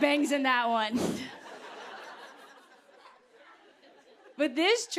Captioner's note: laughter